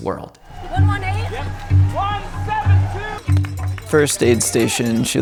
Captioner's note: crowd cheers